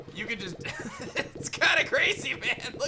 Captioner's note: laughs